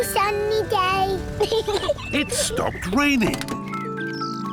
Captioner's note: peppa pig laughs